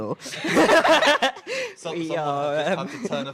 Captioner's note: laughing